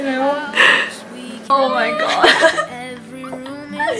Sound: laughs

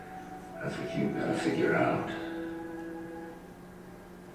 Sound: voiceover

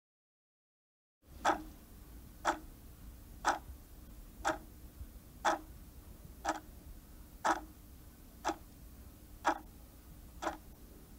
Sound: sound of clock tick tock

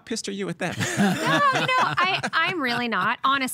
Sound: both laughing

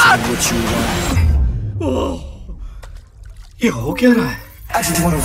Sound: gasps

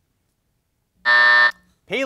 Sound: buzzer sounds

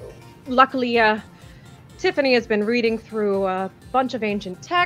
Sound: stammers

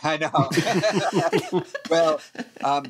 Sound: laughter

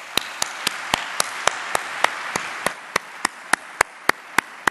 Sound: applause

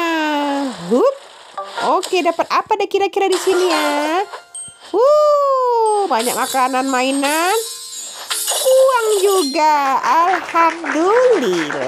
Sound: applause

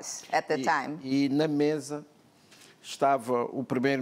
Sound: speaking portuguese

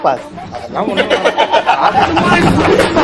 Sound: laughs

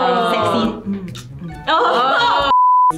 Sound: kiss noises

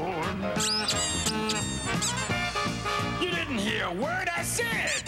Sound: squeaking

